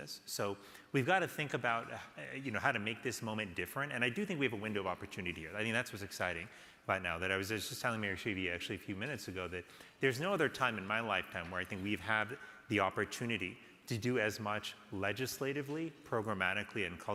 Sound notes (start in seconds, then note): none